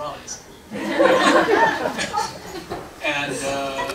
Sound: laughter

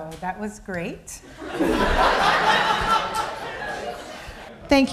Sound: laughter

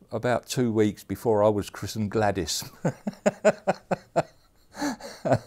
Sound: laughs

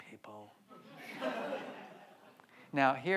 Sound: audience laughs

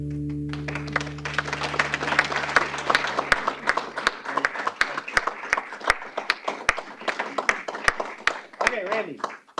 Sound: applause

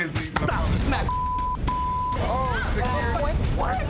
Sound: beeps

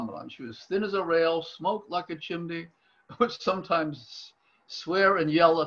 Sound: laughs

